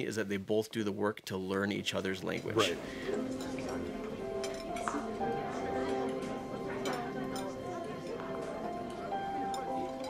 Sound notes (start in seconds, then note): 3.8 chatter in the restaurant